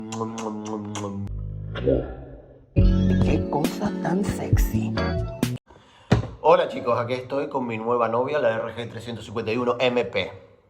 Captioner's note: kisses